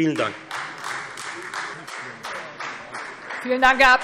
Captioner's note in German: Beifall Freie Demokraten